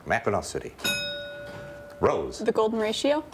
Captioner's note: bell rings